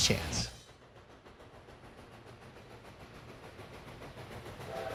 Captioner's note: train engine